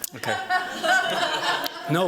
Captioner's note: laughter